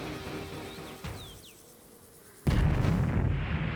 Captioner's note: birdsong; explosion